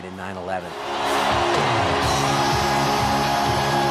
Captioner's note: cheering